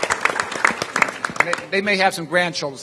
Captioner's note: applause